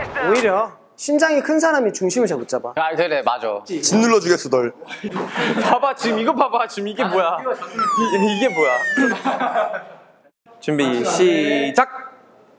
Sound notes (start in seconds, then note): 5.0 whimper